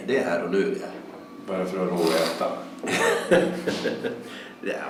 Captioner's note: chuckles